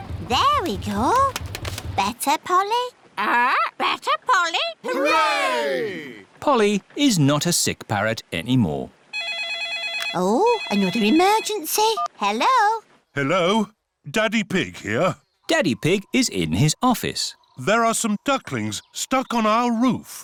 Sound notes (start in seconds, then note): 9.1 phone rings